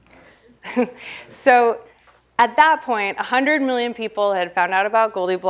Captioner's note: chuckles